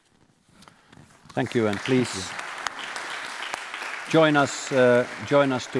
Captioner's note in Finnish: Applause